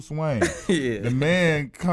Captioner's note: laughs